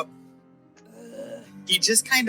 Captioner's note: groans